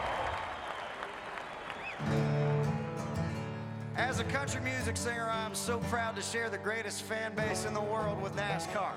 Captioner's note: applause